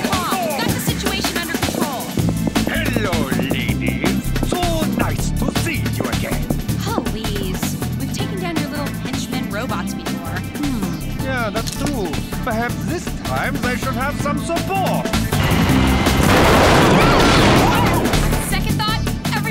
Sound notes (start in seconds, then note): 15.3 crash; 17.4 squealing